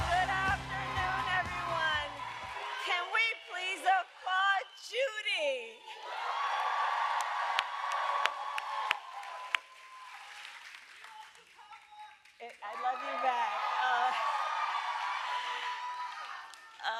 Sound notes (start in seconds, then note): 5.1 applause; 12.9 applause; 15.2 laughs